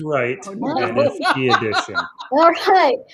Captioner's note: laughs